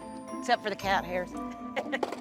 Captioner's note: laughs